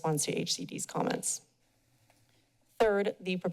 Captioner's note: pause